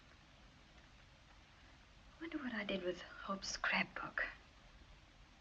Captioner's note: none